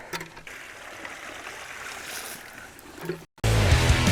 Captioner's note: water sloshing; energetic rock music